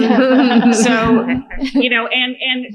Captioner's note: laughter